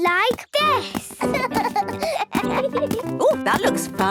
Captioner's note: both laugh